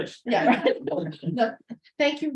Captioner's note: laughter